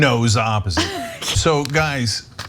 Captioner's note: laugh